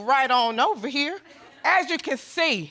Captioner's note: audience laughing